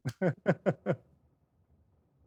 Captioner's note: laughter